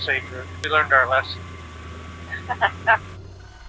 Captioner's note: laughs